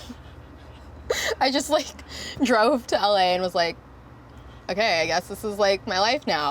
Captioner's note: laughs